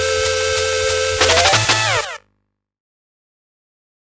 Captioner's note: intro music; door Door